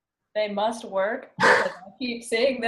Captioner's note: laughing